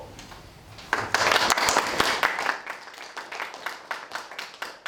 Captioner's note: applause